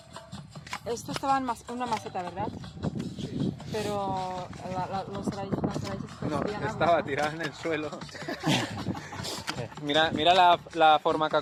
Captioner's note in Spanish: risas